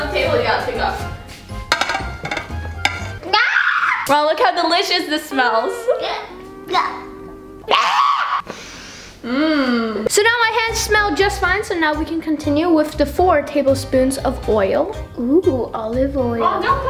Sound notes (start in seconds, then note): 3.3 screams; 6.1 retches; 7.6 screams; 8.4 inhales deeply